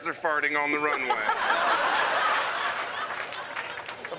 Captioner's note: laughter